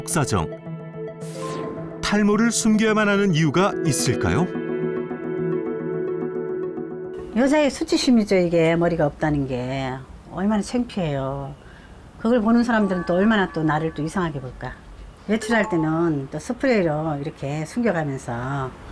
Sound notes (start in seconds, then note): 4.8 voiceover